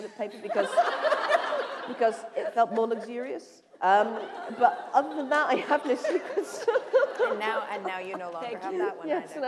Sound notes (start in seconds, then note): 4.0 laughter